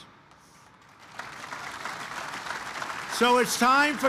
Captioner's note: applause